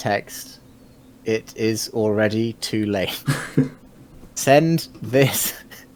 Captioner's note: both laughing